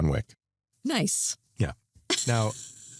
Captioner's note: laughs